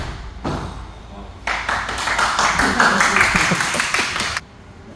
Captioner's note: applause